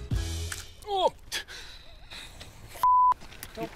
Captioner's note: grunts; beep